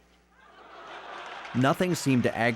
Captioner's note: audience laughs and applauds